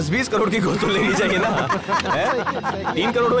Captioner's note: Laughs